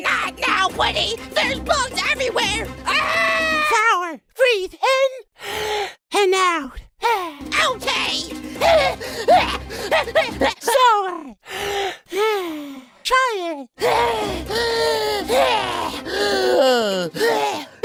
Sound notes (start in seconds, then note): 5.4 inhale; 7.1 exhale; 8.9 breathes in and out, quickly; 11.4 breathes in and out; 16.0 breathes in and out, slower